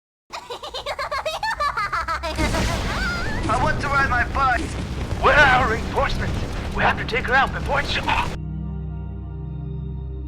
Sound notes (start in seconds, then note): 0.3 laughing